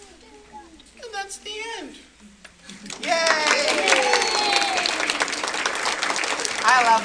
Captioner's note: applause